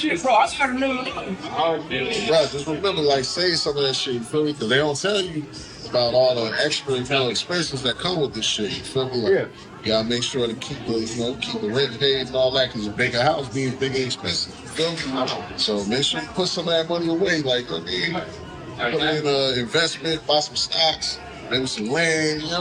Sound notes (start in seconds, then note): 15.1 background bar noise